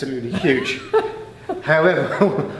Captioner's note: laughing